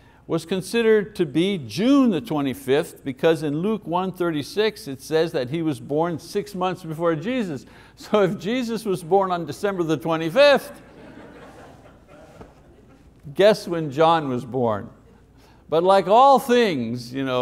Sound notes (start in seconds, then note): 10.7 congregation laughs